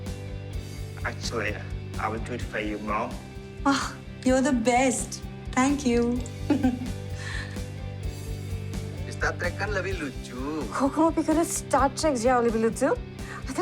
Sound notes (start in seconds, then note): 6.2 giggling; 9.2 speaking Indonesian